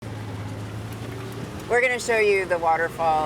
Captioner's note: four-wheeler engine humming